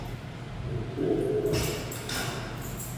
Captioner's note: lion growl